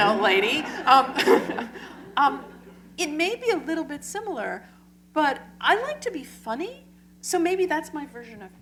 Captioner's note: laughter